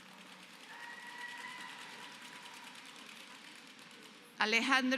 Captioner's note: applause